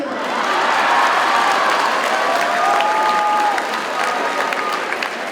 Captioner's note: audience cheers and applauds